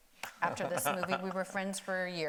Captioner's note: laughing